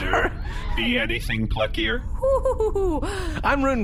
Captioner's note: laughing, hurt; laughing